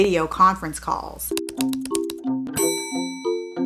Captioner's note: typing sounds